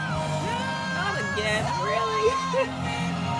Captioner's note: giggles